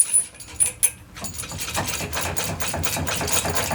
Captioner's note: metal clanking